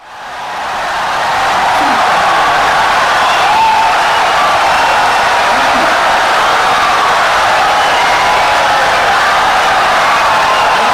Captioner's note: wild applause and cheering for 17 seconds